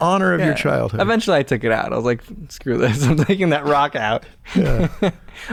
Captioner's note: laughs